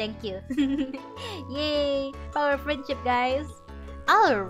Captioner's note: laugther